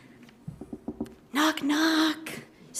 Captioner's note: none